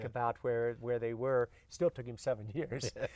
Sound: laughs

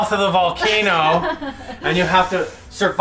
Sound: laughing

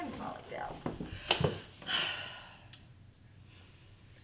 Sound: sighs

